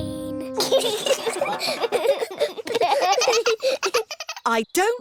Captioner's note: all giggling